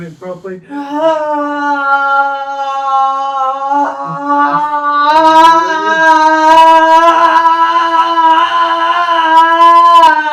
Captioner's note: humming